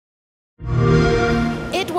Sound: xbox sound

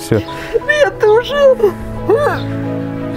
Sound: crying

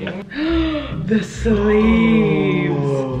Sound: gasps

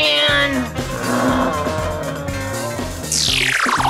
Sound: groans

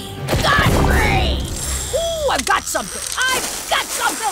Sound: none

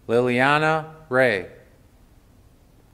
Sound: none

